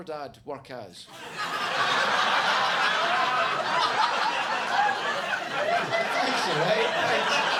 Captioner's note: audience laughing